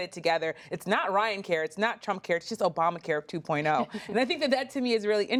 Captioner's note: laughter